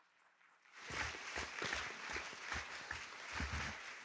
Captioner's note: audience clapping